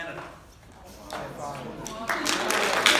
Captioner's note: applause